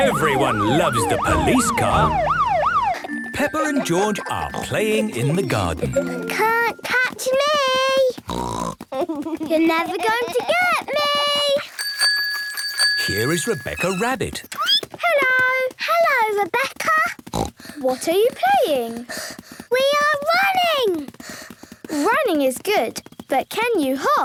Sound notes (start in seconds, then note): 8.3 snort; 11.6 bike bell; 17.3 snort